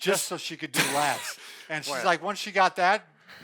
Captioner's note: laughs